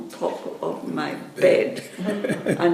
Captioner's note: chuckles